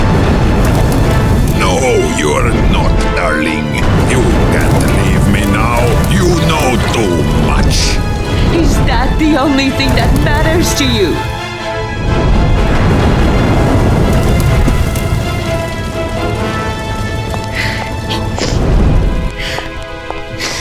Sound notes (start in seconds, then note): 0.2 flames roar; 12.4 flames roar and crackle; 18.0 sobs